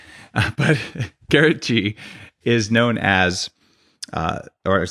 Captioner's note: laughs